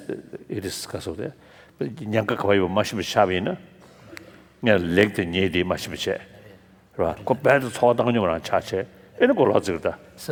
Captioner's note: foreign Language